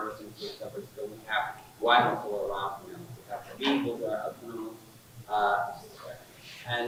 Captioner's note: faintly speaking; faintly speaking